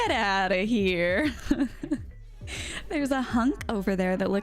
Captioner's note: laughs